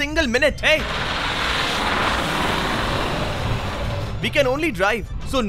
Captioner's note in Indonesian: Suara mobil